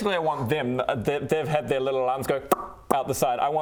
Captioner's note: pop